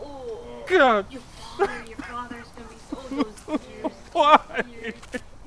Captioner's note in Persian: گریه